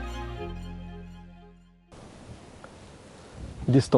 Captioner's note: silence